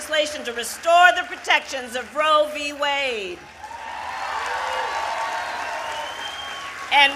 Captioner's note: applause